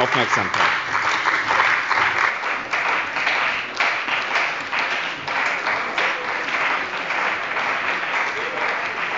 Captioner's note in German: Beifall bei dem BÜNDNIS 90/ DIE GRÜNEN und der CDU